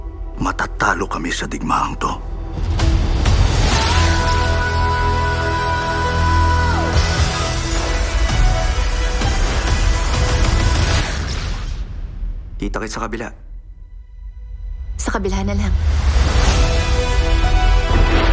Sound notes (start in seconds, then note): 3.8 singer vocalizing; 8.8 energy crackling; 15.7 music builds